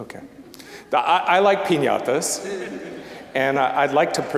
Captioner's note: audience laughing